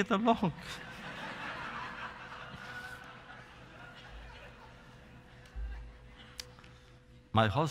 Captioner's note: laughter